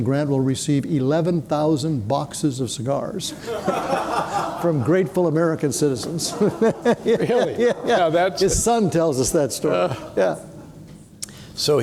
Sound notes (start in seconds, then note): 3.3 people laughing; 5.8 chuckles